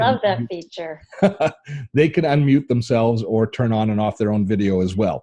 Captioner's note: laughs